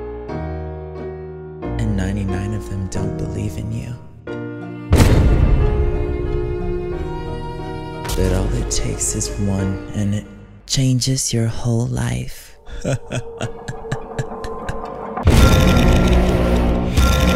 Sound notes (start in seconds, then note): 4.9 booming; 6.0 dramatic music; 12.6 laughing; 15.4 booming